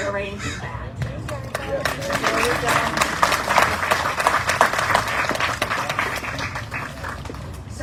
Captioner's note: audience cheering, applauding